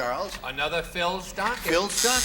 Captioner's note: buzzer